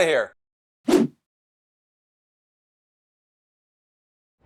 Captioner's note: whooshing